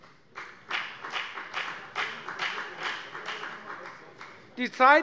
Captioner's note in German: Beifall bei der FDP